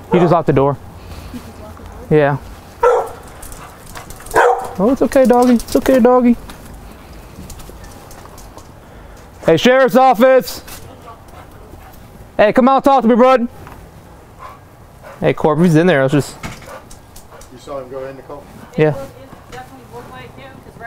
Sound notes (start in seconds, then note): 4.2 dog barking